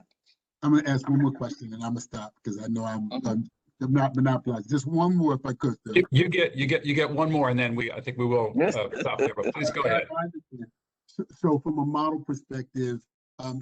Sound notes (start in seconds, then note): 8.6 laughter